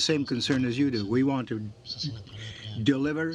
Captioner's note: speaking French